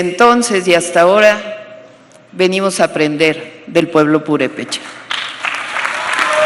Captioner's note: applause